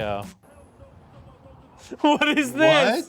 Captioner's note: laughing